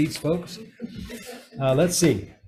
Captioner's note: crowd chuckles